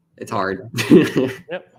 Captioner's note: chuckles